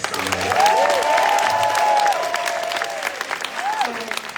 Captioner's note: audience cheering